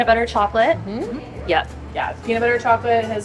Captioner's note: agreeing